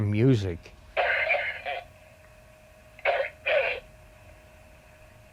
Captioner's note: coughing on baby monitor